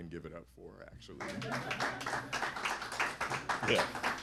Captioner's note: laughter and applause